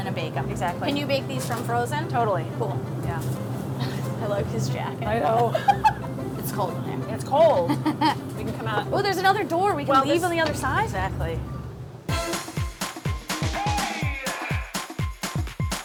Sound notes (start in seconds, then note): 5.2 chuckles; 12.0 bright upbeat music